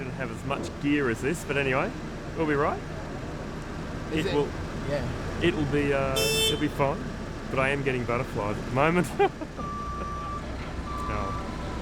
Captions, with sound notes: but we don't have as much gear as this, but anyway. Will be all right. It will. (car honking) It'll be fun. But I am getting butterflies at the moment (laughs).